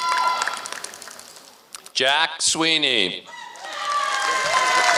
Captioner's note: applause